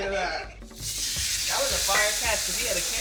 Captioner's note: steak sizzling